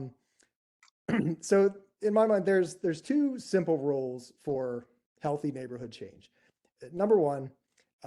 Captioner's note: cough